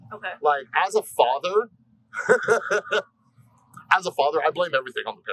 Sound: laughs

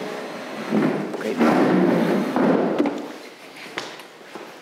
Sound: furniture scraping

